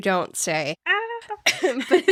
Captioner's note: laughing